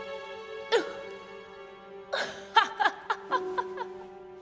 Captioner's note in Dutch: Elisabeth lacht